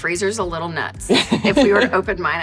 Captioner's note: laughs